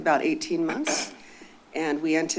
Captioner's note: distant coughing